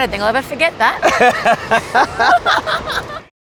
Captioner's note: laughing